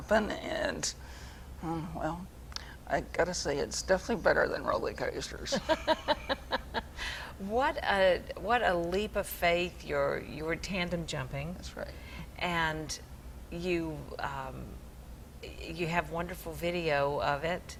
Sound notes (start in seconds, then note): 5.5 laughs